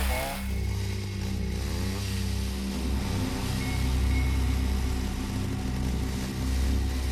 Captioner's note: chainsaw whirs; ominous music